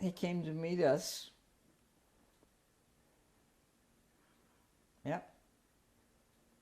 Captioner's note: pauses for 3 seconds